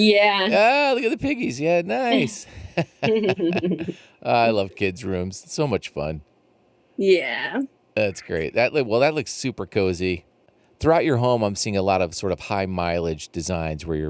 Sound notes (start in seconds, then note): 2.6 laughs